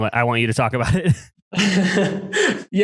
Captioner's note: laughs